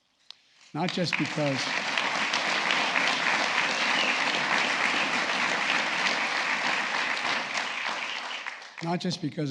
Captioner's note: applause